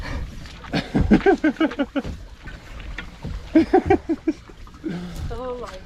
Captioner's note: laughter